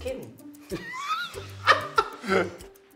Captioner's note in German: Lachen